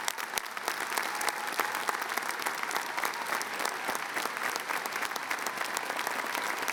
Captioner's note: applause